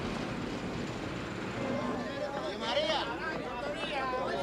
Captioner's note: indistinct chatter